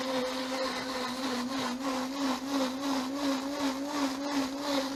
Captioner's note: blender whirring